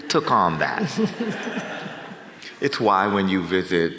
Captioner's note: audience chuckles